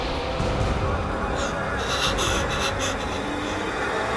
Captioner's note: speaking Spanish; gasping; spooky music